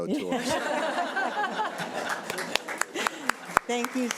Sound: all laughing

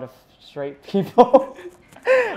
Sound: laughter

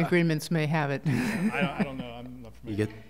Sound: laughter

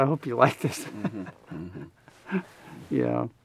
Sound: both laughing

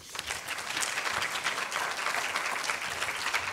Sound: applause

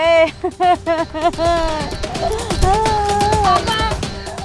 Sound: crying

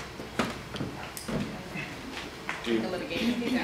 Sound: murmuring

